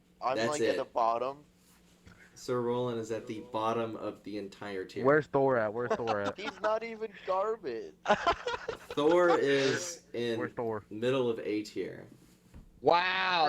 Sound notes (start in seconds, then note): 5.8 laughter; 8.0 greater Laughter